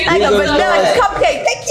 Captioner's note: overlapping chatter